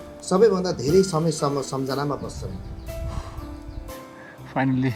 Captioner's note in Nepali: नाकबाट निकालेको आवाज